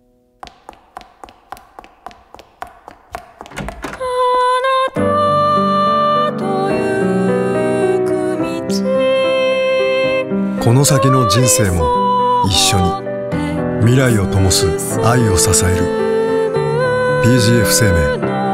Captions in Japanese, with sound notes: [走る足音] この先の人生も一緒に 未来をともす愛をささえる PGF生命